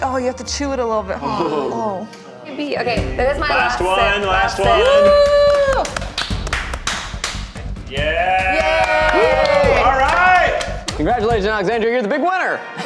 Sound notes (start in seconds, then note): 4.5 cheers and claps; 5.0 upbeat music; 8.1 cast cheers and claps